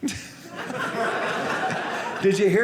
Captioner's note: audience laughing